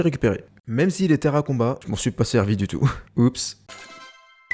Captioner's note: laughs